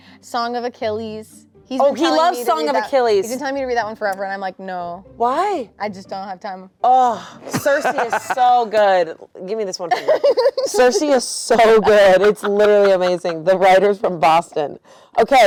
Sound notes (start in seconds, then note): 7.5 laughing; 9.9 laughing